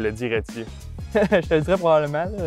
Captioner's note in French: rires